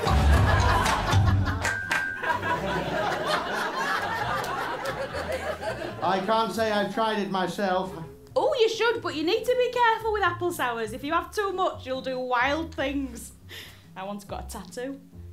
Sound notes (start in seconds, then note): 1.7 jingle; 2.2 laughter